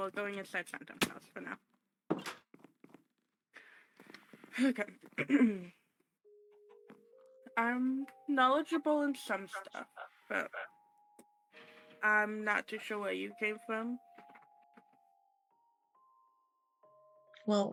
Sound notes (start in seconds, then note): 5.1 ahem